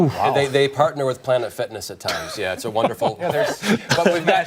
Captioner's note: laughter